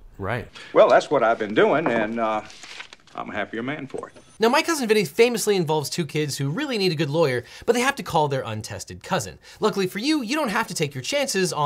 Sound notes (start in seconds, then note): 0.8 paper rustling; 2.1 object thuds